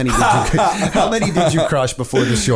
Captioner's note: laughter